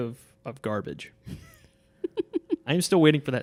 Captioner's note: laughing